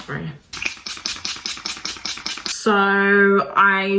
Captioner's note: bottle squirting